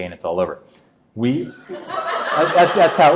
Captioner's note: audience laughs